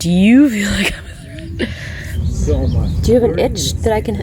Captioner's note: chuckles